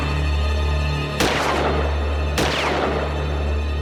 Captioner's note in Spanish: Disparos